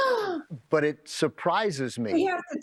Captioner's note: Rita gasps